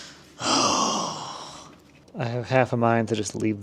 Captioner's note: sighs